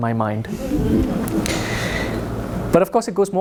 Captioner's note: audience chuckles